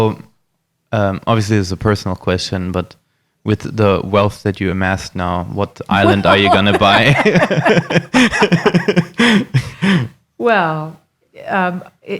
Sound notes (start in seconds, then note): 5.9 laughing